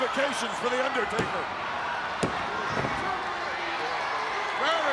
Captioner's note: hand pounding